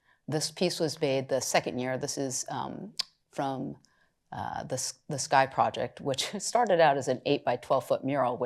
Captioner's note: none